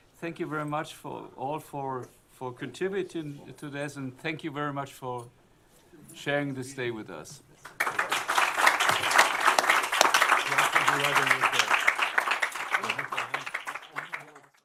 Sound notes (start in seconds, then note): 7.6 applause